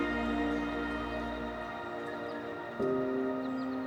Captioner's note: birds chirping